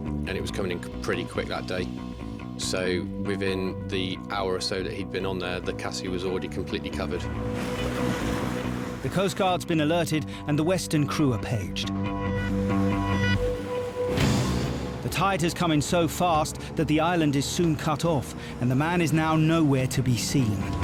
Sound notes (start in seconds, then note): 7.0 waves crashing; 12.3 dramatic music; 12.5 waves crashing; 14.2 boat engine revving